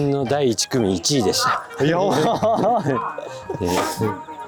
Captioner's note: laughs